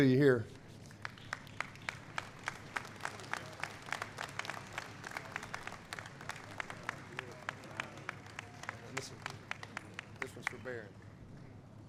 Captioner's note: applause